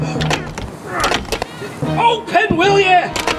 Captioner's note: straining